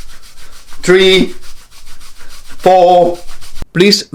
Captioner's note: cloth rustling